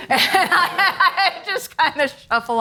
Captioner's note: all laugh